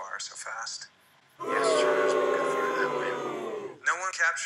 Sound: crowd booing

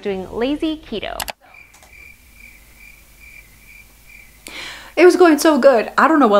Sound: crickets chirping

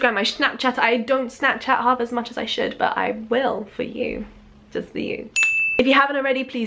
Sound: ding

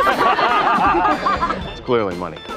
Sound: laughter

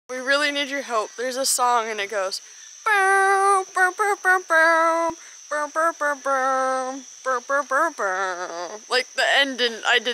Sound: hums song

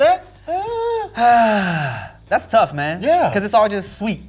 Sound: gasp

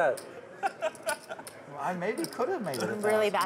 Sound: laughing

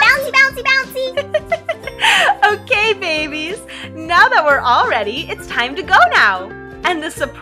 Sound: laughs

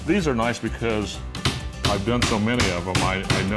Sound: hammering

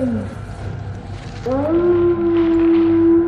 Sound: howl

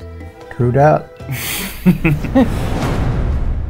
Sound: giggling; intense music

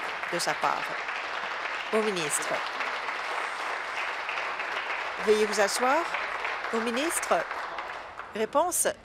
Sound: applause

